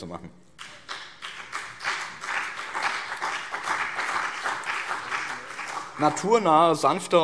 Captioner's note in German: Beifall BÜNDNIS 90/DIE GRÜNEN und vereinzelt CDU